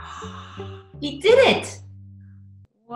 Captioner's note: gasps